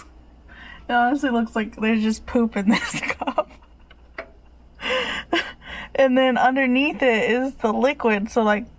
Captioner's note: laughs